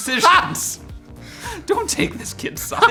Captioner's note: laughing